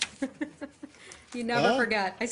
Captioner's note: laughter